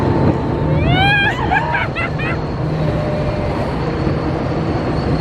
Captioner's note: both squealing